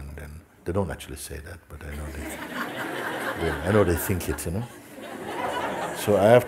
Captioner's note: laughter